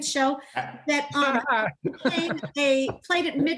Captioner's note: laughs